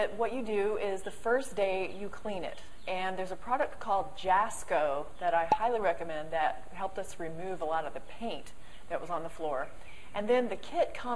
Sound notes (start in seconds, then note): 5.4 pop